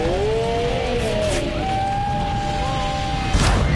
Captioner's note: scream; boom